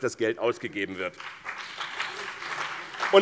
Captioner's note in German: Beifall BÜNDNIS 90/DIE GRÜNEN und CDU